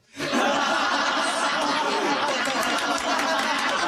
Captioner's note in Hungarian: kitörő kacagás, kis taps